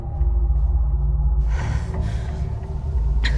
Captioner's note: breathing heavy